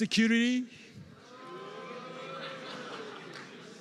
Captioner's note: miXED CHEERS